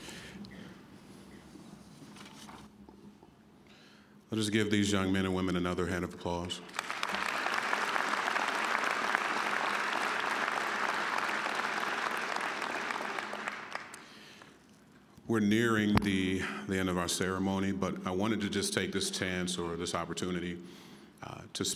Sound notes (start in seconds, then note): 6.5 applause